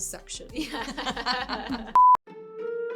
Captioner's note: laughing; electronic beeping; jaunty music